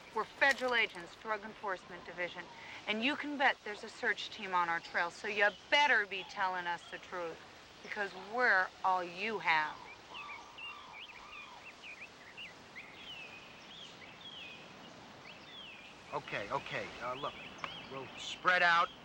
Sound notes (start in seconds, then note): none